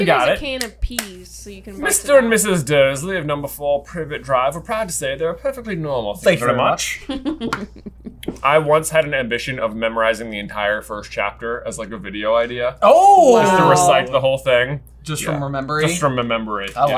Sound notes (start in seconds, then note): 1.7 accented; 7.0 laughter